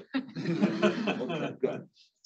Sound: all laugh

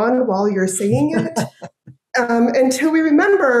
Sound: chuckling

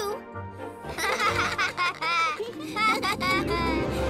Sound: all laughing

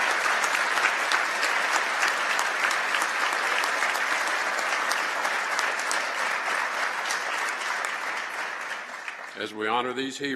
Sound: applause

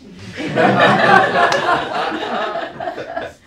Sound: laughter

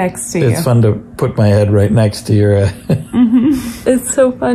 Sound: laughs

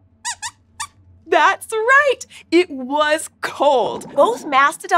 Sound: squeaks squeaks

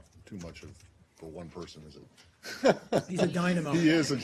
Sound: laughing

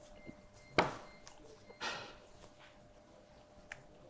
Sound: knife thumping

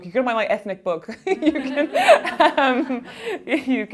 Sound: laughing

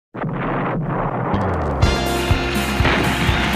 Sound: explosion booming; lively music

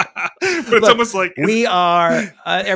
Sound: laughing

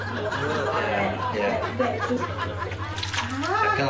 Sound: jelly squelching

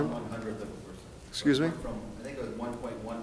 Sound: man speaking softly

